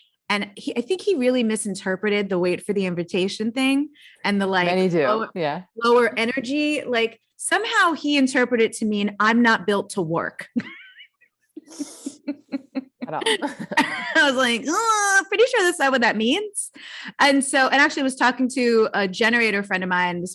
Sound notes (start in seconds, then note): 11.6 laughs